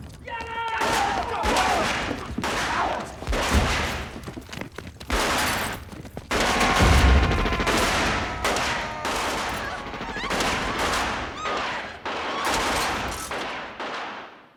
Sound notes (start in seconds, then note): 0.2 shouting; 0.8 gunshots; 7.5 shouting; 11.0 screaming